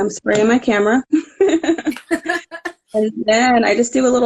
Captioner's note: laughing